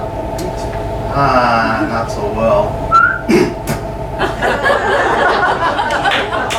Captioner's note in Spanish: silbido, gruñido, ronroneo